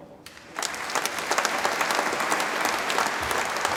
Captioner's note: audience applauds